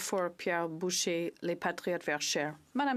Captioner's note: speaking French